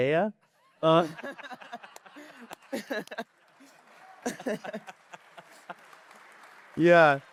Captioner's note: laughter and applause